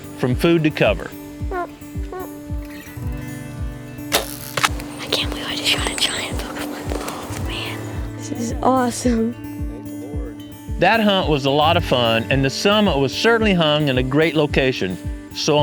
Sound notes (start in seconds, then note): 2.0 whispering